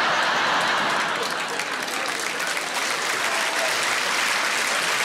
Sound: audience laughing; audience applauding

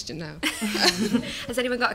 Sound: laughter

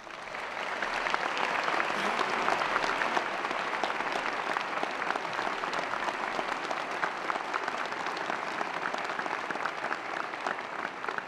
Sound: applause

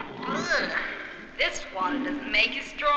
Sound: groaning

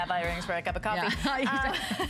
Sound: laughter

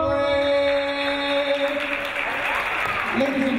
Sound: audience applauding

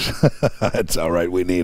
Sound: laughing

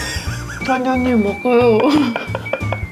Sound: laughing

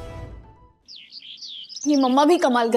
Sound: birds chirping

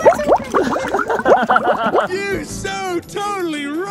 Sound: bubbles popping; dad laughing

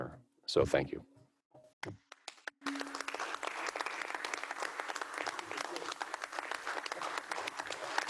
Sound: applause

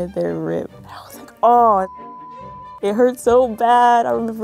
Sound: beep

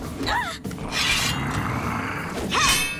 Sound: snarling; grunting

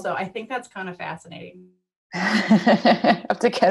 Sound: laughter

